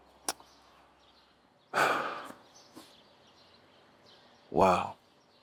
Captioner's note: sighs